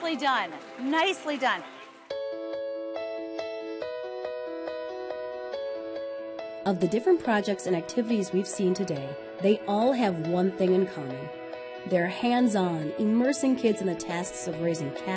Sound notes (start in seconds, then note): 3.6 uplifting music; 7.9 voiceover